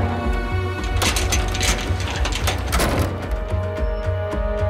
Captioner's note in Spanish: Golpes